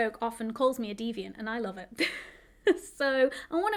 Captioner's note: chuckles